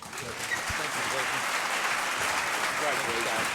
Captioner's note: audience applauds